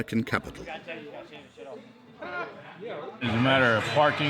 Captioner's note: people chattering